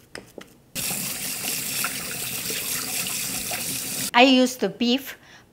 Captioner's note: water running